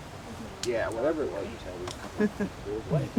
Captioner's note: speaking faintly